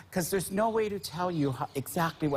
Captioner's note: chuckling